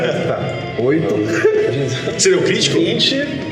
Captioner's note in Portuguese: risos